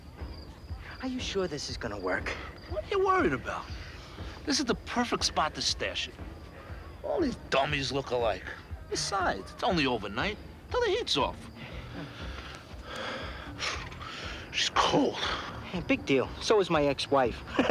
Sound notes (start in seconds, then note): 11.4 breathing heavily